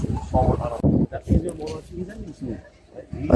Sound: people talking

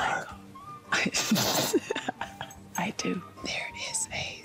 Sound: laughing

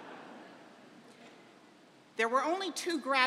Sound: laughter

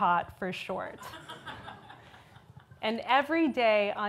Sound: audience laughs

